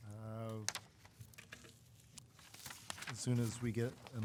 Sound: papers rustling

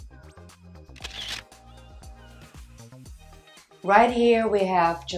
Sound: bouncy pop music; camera shutters

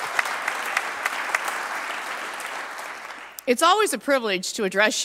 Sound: applause

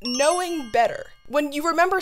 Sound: chime

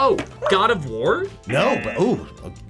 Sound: buzzer barks; buzzer

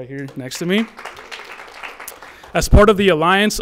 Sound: audience applauds

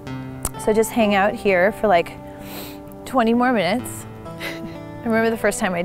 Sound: laughs

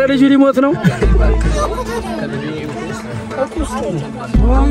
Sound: crowd noise

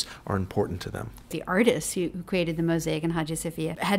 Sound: voiceover

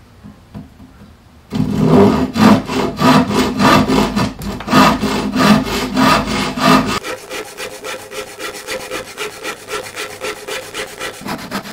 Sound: sawing noises

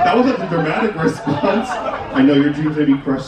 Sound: guests chuckling; chuckles

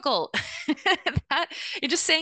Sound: laughing

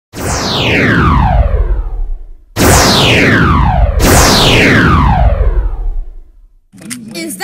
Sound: sound effects

